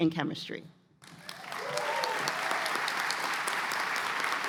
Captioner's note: cheers and applause